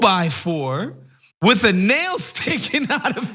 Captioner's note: laugh